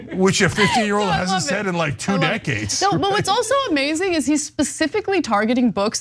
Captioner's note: laugh